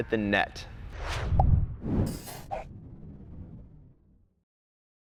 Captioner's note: pop sound effect